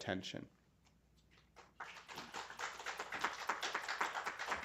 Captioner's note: applause